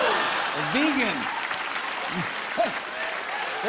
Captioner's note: laughter and applause